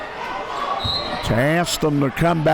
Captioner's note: whistle blows